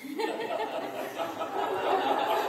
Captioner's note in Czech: smích